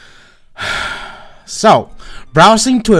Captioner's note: sigh